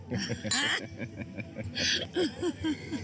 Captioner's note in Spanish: risas; choque de copas; risas